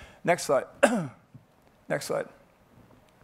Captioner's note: coughs